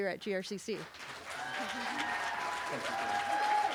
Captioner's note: cheering